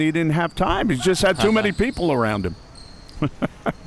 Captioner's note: chuckles